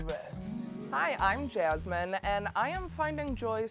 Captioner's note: chimes